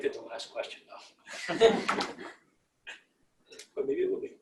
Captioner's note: laughter